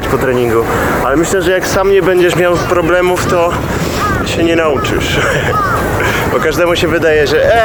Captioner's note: laughter